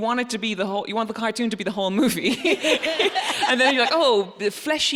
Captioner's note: laughs